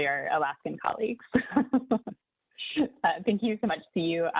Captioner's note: laughs